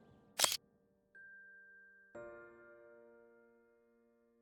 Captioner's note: camera glass shuttering